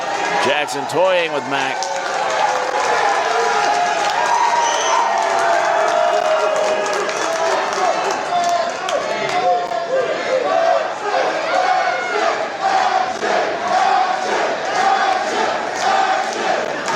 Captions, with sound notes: Jackson toying with Mack. (crowd cheering) (crowd chanting 'Action')